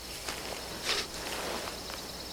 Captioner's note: sniffing